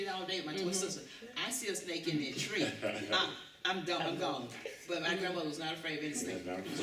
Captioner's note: laughter